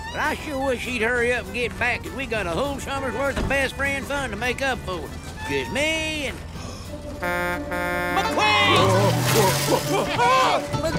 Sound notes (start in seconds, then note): 6.5 gasps; 6.6 horn honks